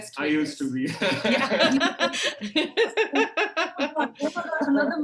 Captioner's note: all laughing